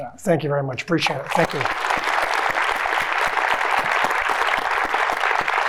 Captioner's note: audience applauding